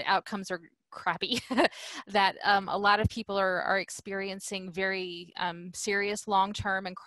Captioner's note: laughter